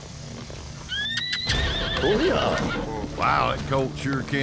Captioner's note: horse neighs, bucks